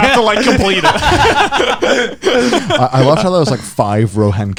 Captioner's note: laughing